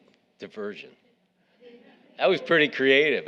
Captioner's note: audience laughing